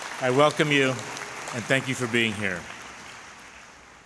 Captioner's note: applause